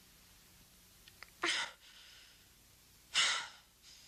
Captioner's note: Carrie gasping